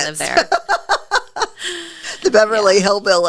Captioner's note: laughs